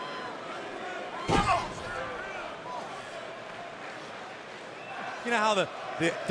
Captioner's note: crowd cheering